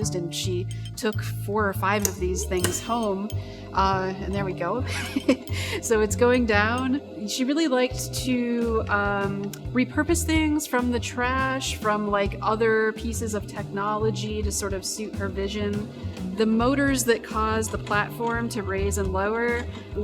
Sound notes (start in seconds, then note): 4.2 laughs; 4.7 machinery humming